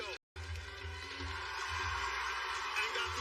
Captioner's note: cheers and applause